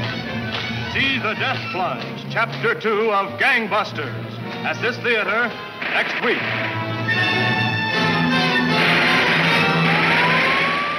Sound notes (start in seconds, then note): 5.8 gunshots banging; 7.8 siren blaring